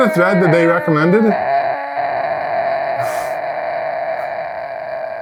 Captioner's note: groaning